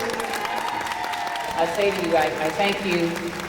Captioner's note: audience applauding